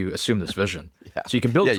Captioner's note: laughs